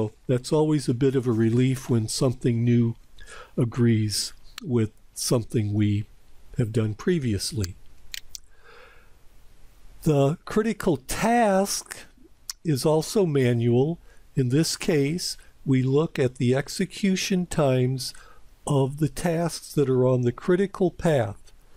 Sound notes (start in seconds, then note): 8.1 PowerPoint click